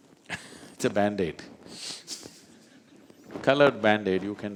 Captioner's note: laughs